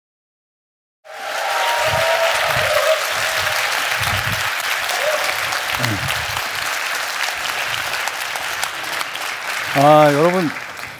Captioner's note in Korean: 박수와 환호